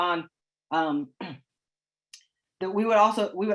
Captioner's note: clears throat